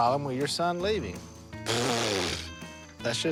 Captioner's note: blows raspberry